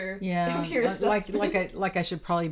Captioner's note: stuttering